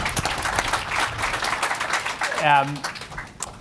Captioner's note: applause